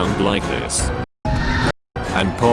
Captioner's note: screeching echo